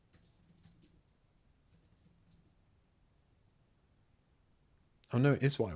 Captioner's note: silence